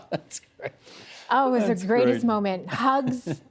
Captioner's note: laughter